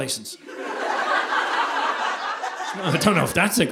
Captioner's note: audience laughing